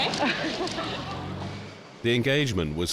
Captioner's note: laughing